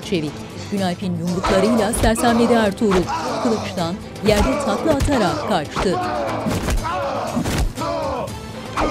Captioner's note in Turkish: Bağırma sesleri